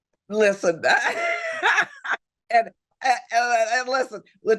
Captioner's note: Barbara laughs